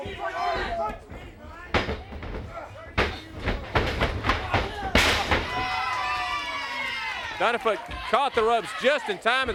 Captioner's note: crowd cheering